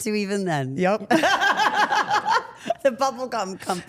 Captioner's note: Steph laughs